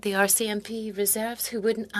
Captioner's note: speaking French